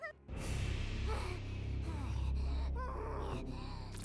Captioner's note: grunting